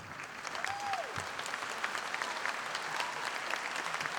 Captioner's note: audience applauding